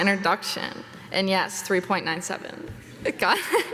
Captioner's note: giggling